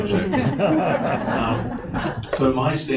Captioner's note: audience laughs